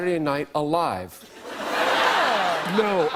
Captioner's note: laughter